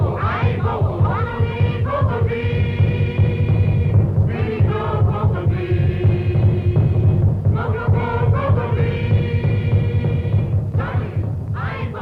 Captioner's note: chanting speeds up